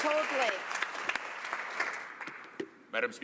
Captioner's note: applause